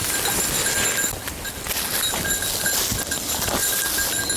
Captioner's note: bell ringing